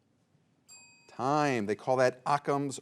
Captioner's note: bell rings